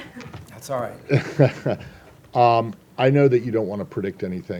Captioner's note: chuckles